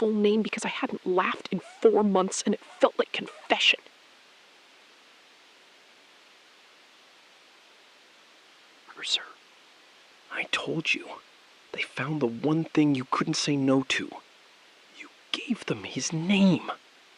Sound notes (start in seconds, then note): 6.8 SILENCE — 7 sec